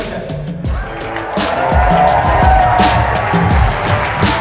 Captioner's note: applause